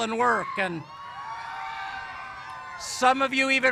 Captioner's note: cheers